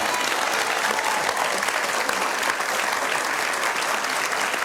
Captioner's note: audience applauds